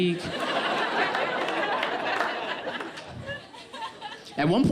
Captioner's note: audience laughs